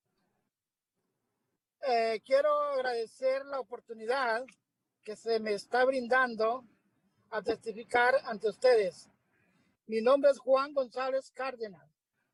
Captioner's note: spanish